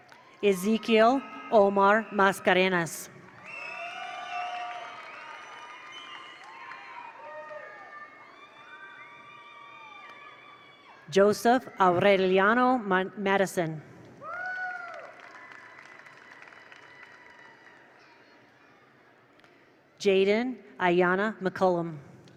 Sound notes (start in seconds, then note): 3.1 attendees cheer; 3.2 attendees applaud; 14.2 attendees cheer; 14.2 attendees applaud